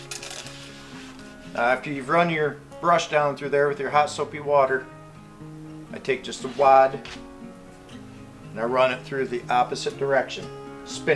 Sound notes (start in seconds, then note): none